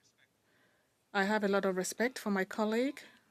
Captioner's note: speaking French